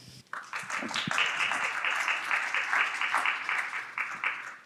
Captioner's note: audience applauding